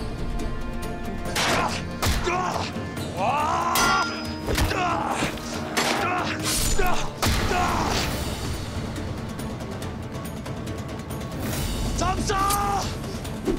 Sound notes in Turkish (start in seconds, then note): 1.2 Dövüş sesleri